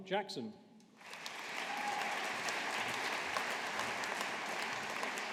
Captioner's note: audience applauding